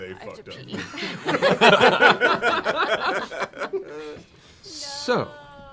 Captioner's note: laughter